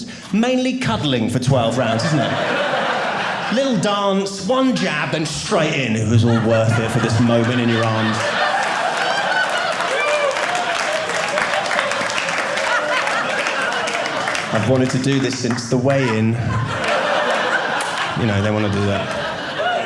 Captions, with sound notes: Mainly cuddling for 12 rounds, isn't it? A little dance. One jab. And straight in. It was all worth it for this moment in your arms. (audience laughing) I've wanted to do this since the weigh in. (audience laughing) They want to do that.